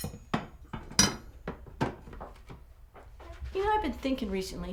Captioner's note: dishes clanking